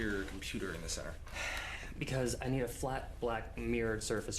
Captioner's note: sighs